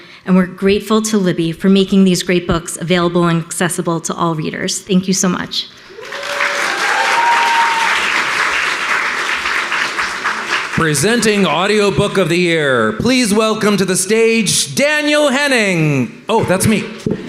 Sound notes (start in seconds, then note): 5.9 audience applauding